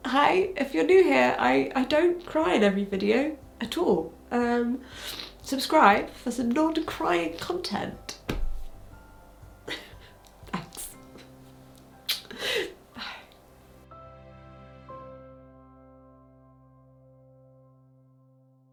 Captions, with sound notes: Hi, if you're new here, I don't cry in every video at all. Subscribe for some lord of crying content. (chuckles) Thanks. (smacks lips) Bye. (gentle music)